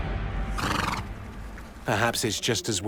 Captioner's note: horse snorts